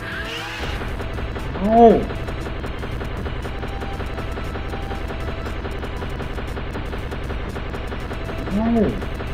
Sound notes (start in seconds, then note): 0.0 whirring, mechanical pounding; 3.1 mechanical pounding continuing